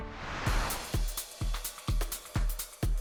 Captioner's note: screen whooshing; upbeat music